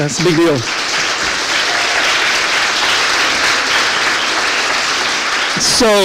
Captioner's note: applause